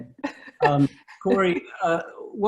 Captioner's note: laughs